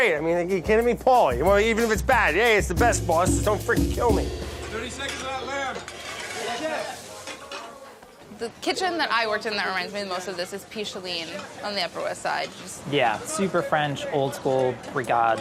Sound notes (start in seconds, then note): 7.0 dishes rustling